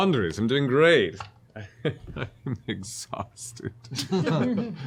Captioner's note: chuckles